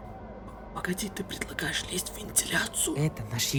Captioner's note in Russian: шёпотом